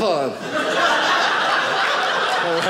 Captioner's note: audience laughing